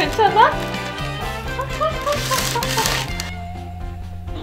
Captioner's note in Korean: 웃음 소리